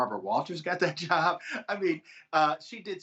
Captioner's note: laughter